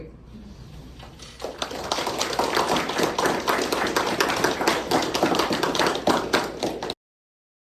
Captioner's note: clapping